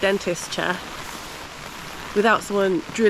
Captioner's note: rain